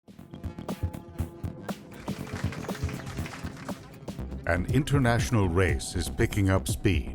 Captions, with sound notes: (applause) - [Voiceover] An international race is picking up speed